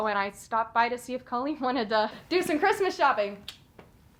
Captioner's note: tongue clicks; Colleen chuckles